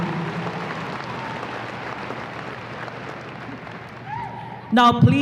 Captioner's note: audience cheers and applause